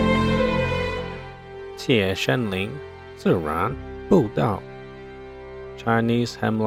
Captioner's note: speaking Chinese